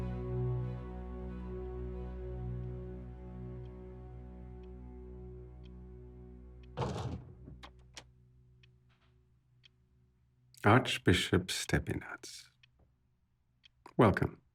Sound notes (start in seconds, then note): 5.0 door clicks; 5.0 gentle music continues